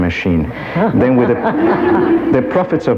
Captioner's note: audience laughs